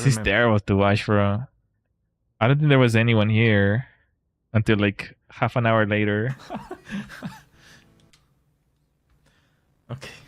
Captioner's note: laughter